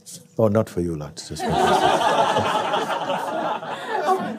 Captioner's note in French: rires